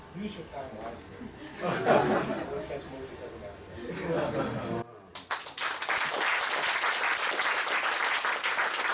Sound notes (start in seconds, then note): 1.4 laughter; 5.1 applause